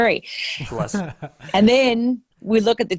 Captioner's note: laughing